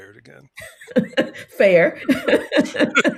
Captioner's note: laughs